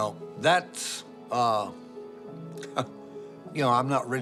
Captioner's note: chuckles